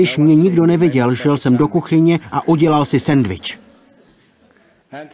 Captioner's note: laughter